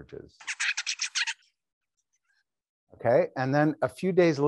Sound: bird singing

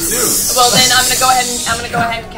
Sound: hissing

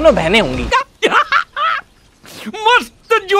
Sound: laughing

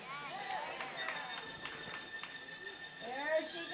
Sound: clapping

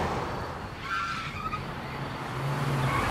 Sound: tires screech

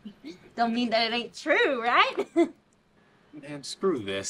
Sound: giggles

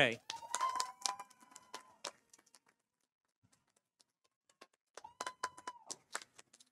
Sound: audience applauding; audience cheering

